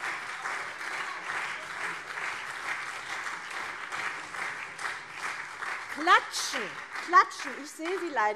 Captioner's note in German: Beifall CDU und SPD